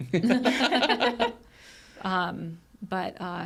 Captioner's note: group laughs